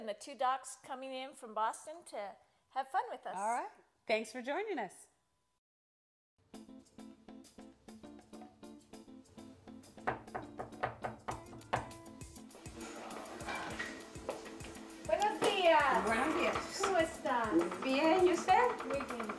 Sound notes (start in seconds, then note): 10.0 light knocking; 15.3 speaking in foreign language